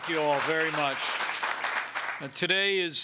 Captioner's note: applause